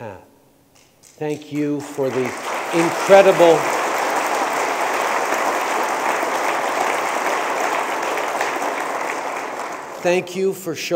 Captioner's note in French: Applaudissements